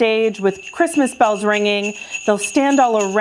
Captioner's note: bells chiming